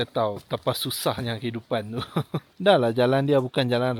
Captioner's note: laugh